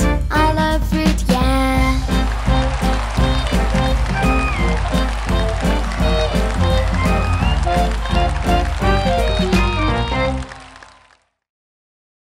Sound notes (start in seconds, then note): 1.9 audience applauding; 3.3 happy jazz music